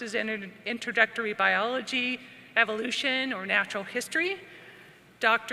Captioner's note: none